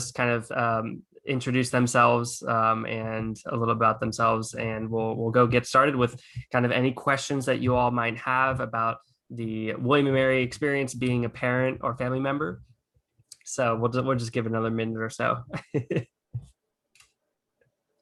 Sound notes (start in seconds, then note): 15.5 laughs